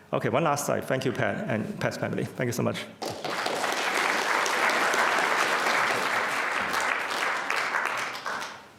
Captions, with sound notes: Okay. One last slide. Thank you, Pat and Pat's family, thank you so much (crowd applause).